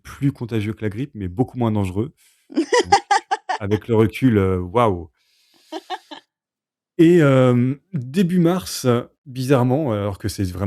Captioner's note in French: rires